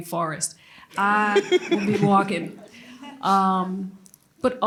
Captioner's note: laughter